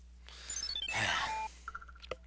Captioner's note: sigh